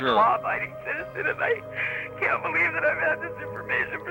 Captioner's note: woman speaking tearfully, sobbing